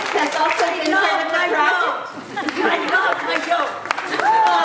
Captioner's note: audience member yelling; audience laughing; audience applauding